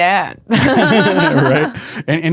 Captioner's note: laughing